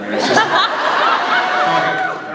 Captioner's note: laughs